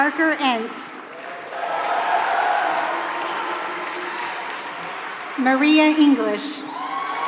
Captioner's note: applause